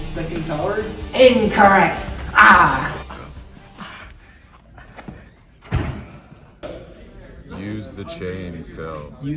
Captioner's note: punching sound